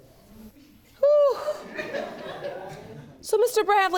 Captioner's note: exhales loudly; audience laughing